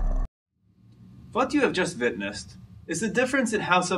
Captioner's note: unknown accent